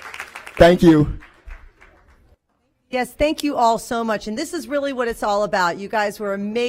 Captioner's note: applause